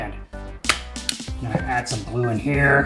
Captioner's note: stapler noise